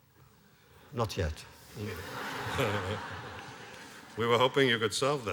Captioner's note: laughter